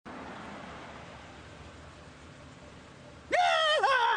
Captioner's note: traffic hums; driver screams joyfully